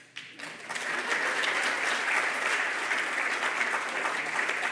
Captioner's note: audience applauding